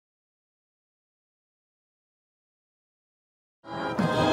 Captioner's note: audio thuds